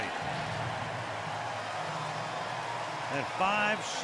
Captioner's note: cheering